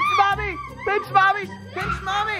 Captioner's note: shouts